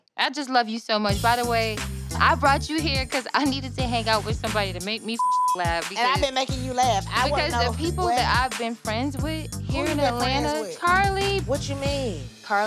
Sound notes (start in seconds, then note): 5.1 beep